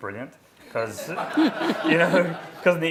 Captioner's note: laughing